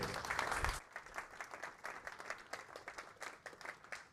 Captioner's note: applause